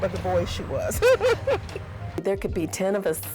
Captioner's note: laughter